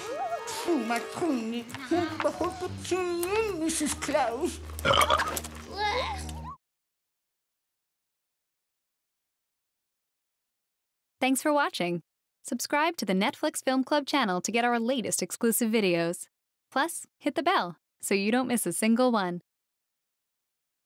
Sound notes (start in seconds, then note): 4.8 belches